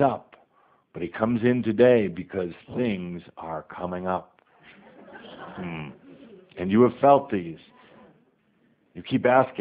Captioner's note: more laughter